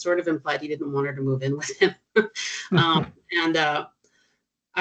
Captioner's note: chuckling